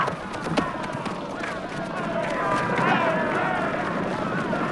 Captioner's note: raider shouting